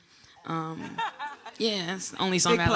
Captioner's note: audience laughing